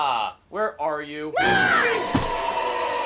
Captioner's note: Kira screams; sinister music; sinister dramatic music